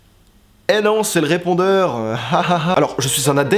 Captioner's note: fake laugh